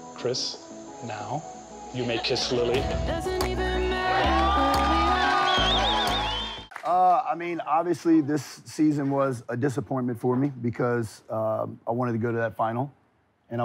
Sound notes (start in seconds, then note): 3.2 soft music; 3.8 cheering